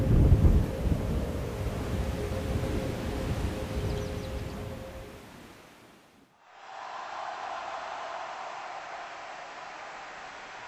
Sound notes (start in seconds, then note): 6.4 crowd cheering